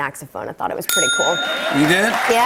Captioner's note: ding!; cheers and applause